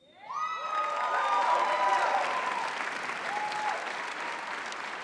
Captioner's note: cheering